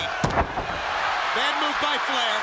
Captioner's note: crowd cheering